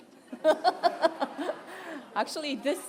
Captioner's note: laughter